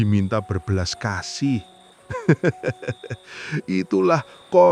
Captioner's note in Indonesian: tertawa